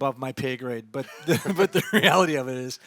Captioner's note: both chuckles